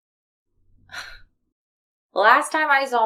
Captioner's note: chuckles